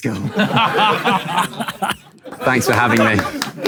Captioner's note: people in room laughing